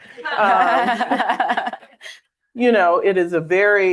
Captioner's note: all laughing